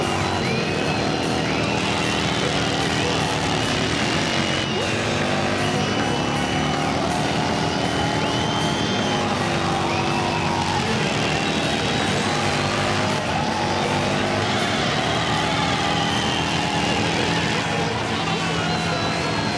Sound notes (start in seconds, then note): 0.8 engine roaring; 5.2 people continue shouting and cheering; 13.9 engine roaring; 13.9 people chattering